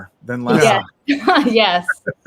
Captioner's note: laughs